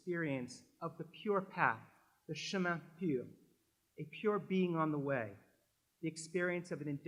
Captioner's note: french